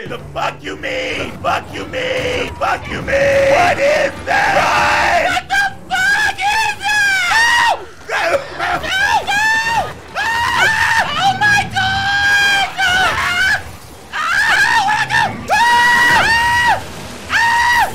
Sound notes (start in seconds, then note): 8.0 coughing; 10.1 screaming; 12.9 screaming; 16.6 screaming